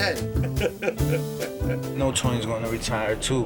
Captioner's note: laughing